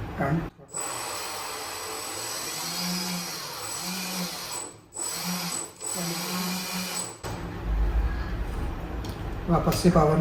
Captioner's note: drone motors respond to Transmitter commands